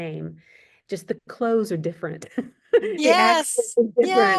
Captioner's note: laughs